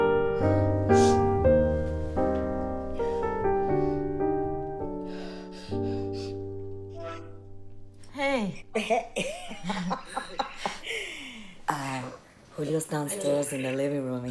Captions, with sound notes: [steadying breath] -Hey! -Hey-- [giggling] [both laughing] Uh, Julio's downstairs in the living room